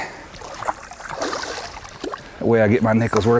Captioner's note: splash